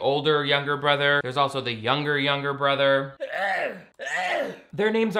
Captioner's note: sneeze